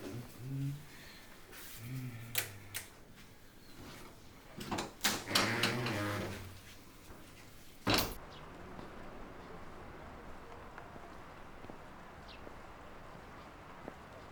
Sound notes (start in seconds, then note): 1.7 hums; 2.7 light switch clicks; 5.5 door creaks; 10.8 wind rustling, birds chirping